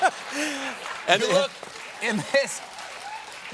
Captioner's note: applause